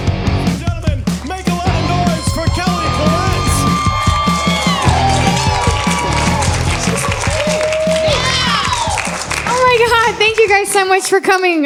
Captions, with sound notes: Gentlemen, make a lot of noise for Kelly Florence. [CHEERING] [APPLAUSE] Oh my god. Thank you guys so much for coming.